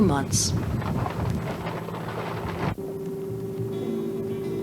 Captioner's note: water sounds